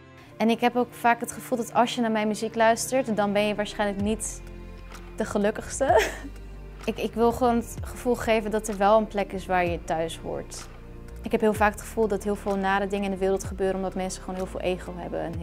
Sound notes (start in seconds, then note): 5.9 laughs